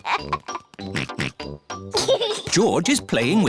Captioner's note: oinks